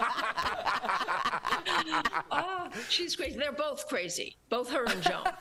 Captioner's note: laughter; laughter